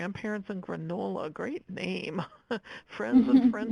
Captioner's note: laughing